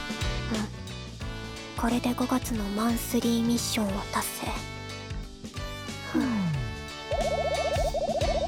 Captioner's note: sigh